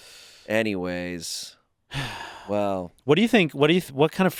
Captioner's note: exhales